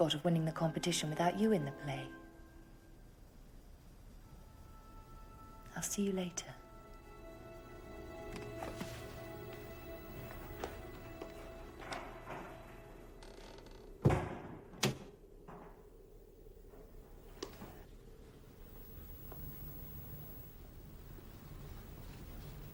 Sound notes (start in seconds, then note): 8.3 dramatic music continues; 14.0 door snaps closed; 19.0 soft footsteps approach